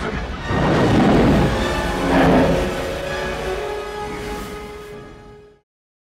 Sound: vehicles roaring; music intensifies

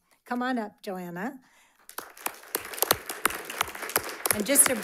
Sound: audience applauds

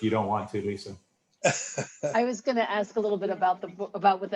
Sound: laughter

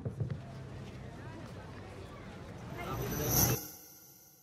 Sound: people talking

